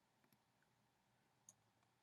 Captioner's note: clicking sound